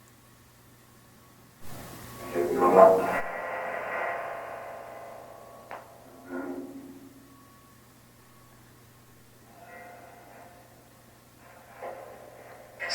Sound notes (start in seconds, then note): 2.2 spirit box vocalizing